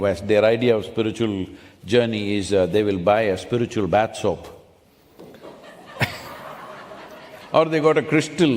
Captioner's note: laughter